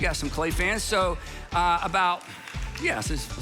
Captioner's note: audience applauds